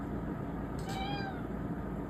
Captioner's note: meows